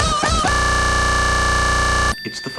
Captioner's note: audio glitches out